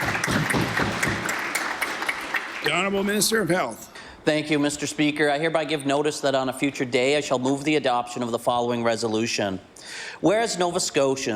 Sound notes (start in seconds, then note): 1.9 applause